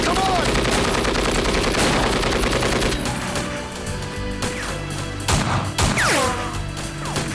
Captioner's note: guns firing